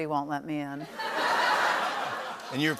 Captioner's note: laughter